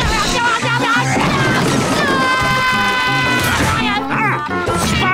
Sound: screaming

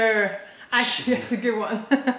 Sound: laughter

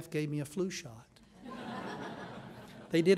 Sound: laughing

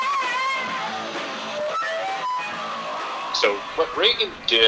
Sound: microphone feedback

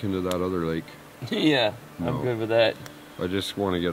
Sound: laughs

